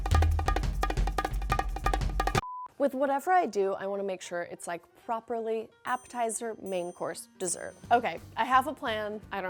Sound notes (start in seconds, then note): 2.4 beep